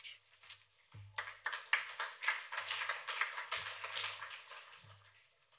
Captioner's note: applause